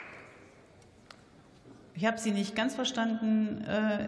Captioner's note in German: Beifall